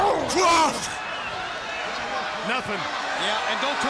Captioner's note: Hogan grunts